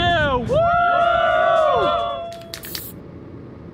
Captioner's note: crowd cheering